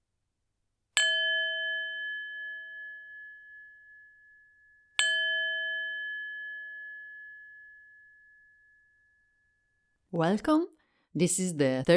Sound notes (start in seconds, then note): 1.0 starting bell